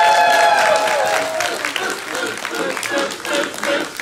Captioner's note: applause